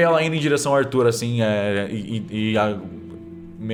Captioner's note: stammers